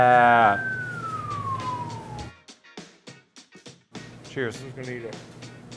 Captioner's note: impressed whistle